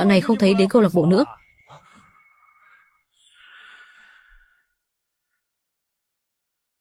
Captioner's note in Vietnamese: thở dài